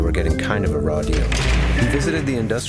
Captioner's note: jail door slamming